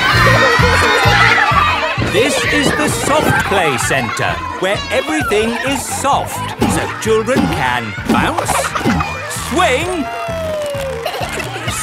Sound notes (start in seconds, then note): 2.6 loudly over shouting; 10.5 giggles